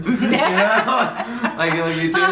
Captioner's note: laughing; laughs